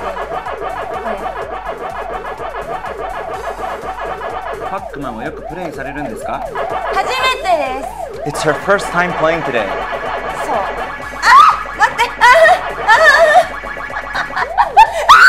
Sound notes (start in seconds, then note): 0.1 speaking in foreign language; 10.6 speaking in foreign language; 11.2 screams; 12.3 whimpering; 14.0 laughing